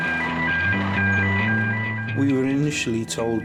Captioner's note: siren blaring continues